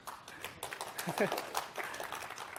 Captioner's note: applause